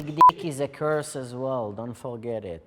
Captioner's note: beep